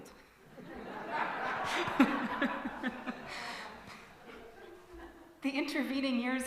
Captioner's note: hearty laughter